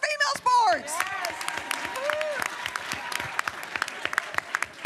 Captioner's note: applause